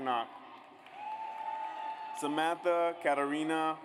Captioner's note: audience cheers